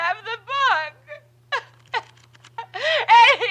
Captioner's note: pages rustling